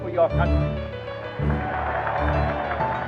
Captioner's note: cheers and applause